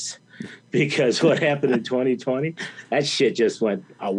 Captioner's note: laughs